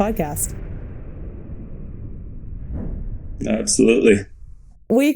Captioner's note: electronic whoosh